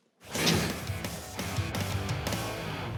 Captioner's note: spits